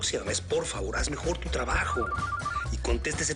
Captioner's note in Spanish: Celular sonando